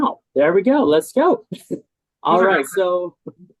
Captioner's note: chuckles